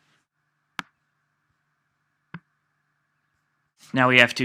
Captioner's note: mouse clicks